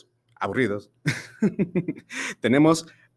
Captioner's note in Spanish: risas